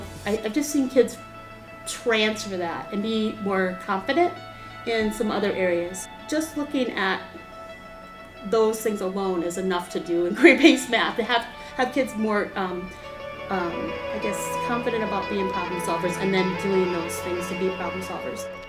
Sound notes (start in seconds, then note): 10.3 laughs